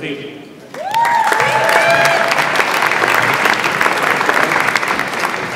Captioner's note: audience applauds and cheers